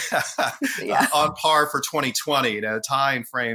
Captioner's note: laughing; laughs